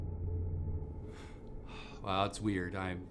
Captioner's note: sigh